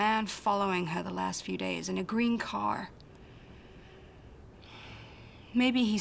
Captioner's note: sighs